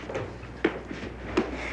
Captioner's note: sighs